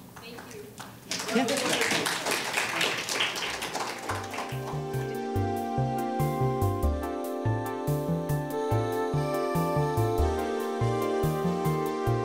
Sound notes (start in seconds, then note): 0.0 audience clapping; 3.8 gentle music